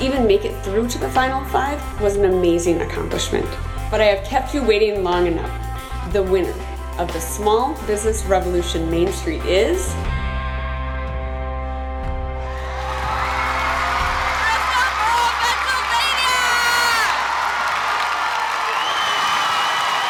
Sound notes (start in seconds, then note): 12.7 screaming and cheering; 17.0 cheering